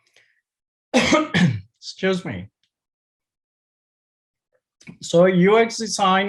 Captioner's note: coughs